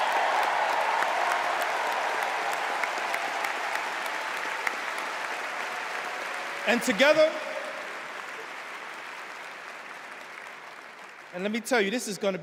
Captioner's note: cheers and applause